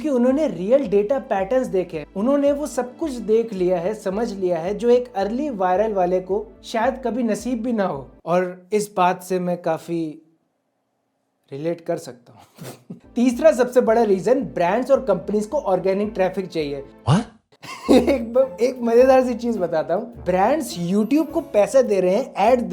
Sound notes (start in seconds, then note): 12.4 light laughter; 17.6 laughs